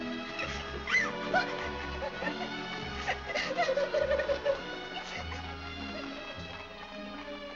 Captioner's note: Annie crying